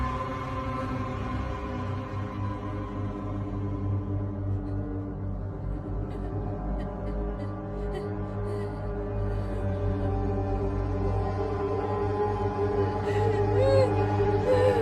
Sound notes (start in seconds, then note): 9.7 crying